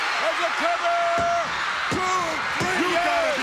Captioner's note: referee's hand beats